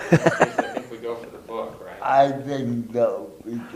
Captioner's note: laughs